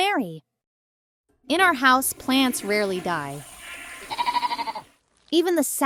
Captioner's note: bleating